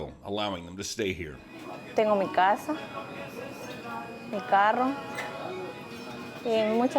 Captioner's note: speaking in Spanish